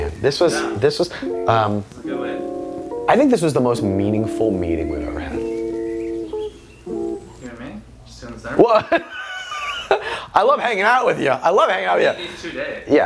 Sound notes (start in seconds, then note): 8.6 laughing